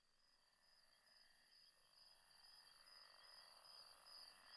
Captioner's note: crickets chirping